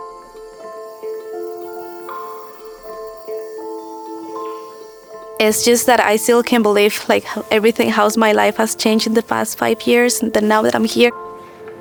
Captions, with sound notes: (soft music continues) (bird chirps) It's just that I still can't believe everything, how my life has changed in the past five years now that I'm here.